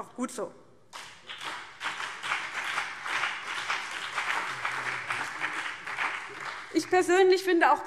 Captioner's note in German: Beifall CDU und BÜNDNIS 90/DIE GRÜNEN